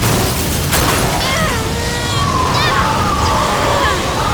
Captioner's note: groans